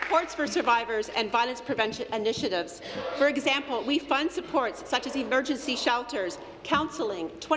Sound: applause

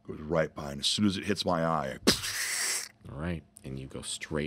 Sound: hissing

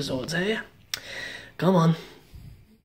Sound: inhales

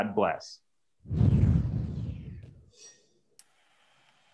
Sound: logo whooshing

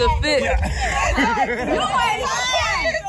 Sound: people laughing

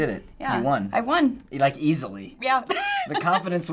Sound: laughing

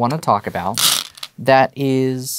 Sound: stones rattling

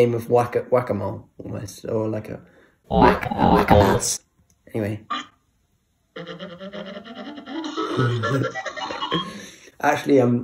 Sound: laughs

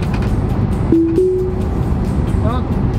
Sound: sound indicating autopilot

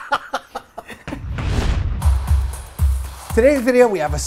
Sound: swoosh / music plays

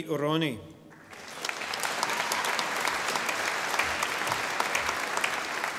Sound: audience applauding

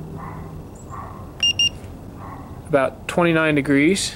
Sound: thermometer beeps

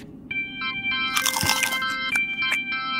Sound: chewing

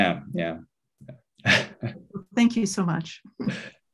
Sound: chuckles

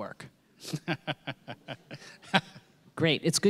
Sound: laughing

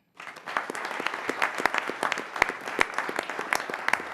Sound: applause

